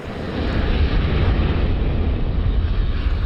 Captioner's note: volcano expelling fumes